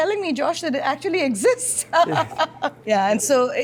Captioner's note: laughs